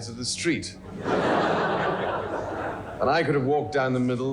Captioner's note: audience laughs